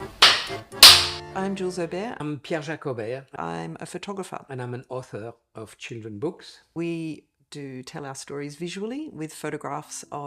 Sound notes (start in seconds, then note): 0.0 accordion music; 0.1 clapboard clapping